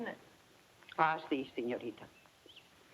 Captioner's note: speaks in foreign language